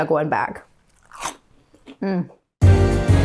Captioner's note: food crunching; upbeat jazzy music